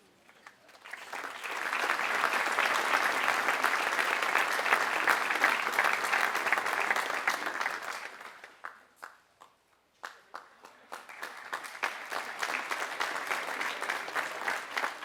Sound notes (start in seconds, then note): 0.0 applause